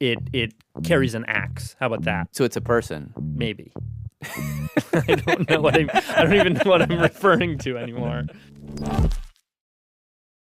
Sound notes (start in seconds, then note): 4.2 laughs